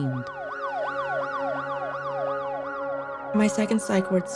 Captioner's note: sirens